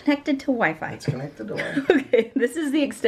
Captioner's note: laughs